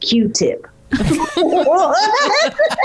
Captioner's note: all laughing